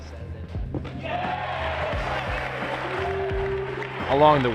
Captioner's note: crowd cheers